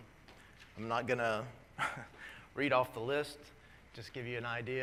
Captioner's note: laugh